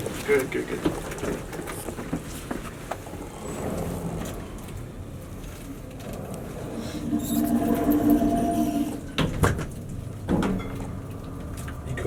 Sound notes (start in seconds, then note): 7.6 elevator door sliding